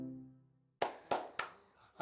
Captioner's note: claps